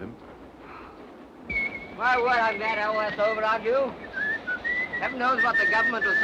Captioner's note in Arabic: يصفر جيلبرت